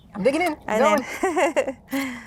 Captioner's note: group laughing